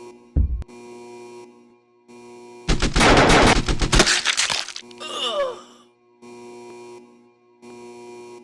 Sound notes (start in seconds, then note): 2.6 gunfire; 3.9 Squelch